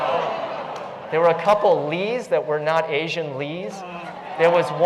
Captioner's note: laugh